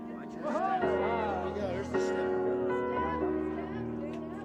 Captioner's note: people cheering; relaxing piano music